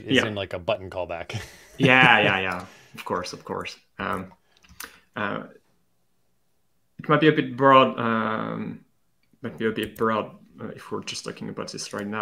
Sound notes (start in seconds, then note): 1.3 laughs